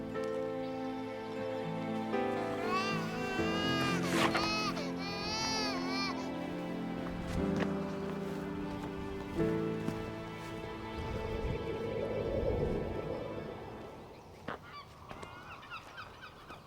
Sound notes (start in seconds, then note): 0.2 somber music; 2.5 Brady crying